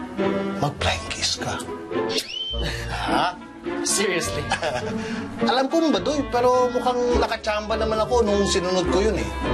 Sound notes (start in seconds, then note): 2.1 smooches; 4.4 chuckles